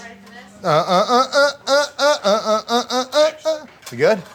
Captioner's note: humming